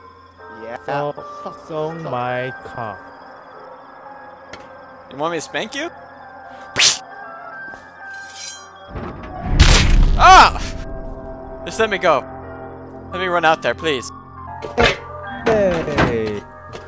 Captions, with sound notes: - Yeeah! - suck suck suck 'So... - suck suck suck 'So my – cock. You want me to spank you? [Smack] [Blade shings] [Blood splatters] EUHF! Just let me go. Let me run out there, please. Heeey